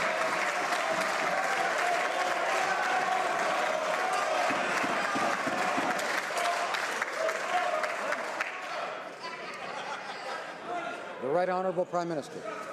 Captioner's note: some Applause